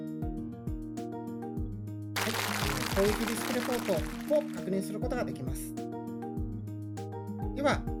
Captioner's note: crackle crackle